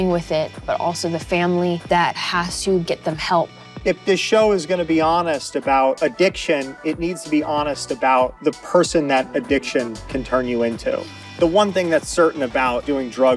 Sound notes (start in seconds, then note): none